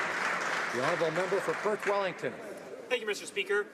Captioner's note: some Applause